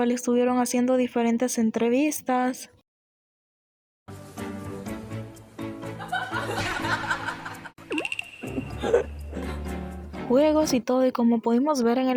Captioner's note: laughs